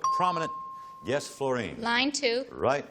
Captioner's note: ping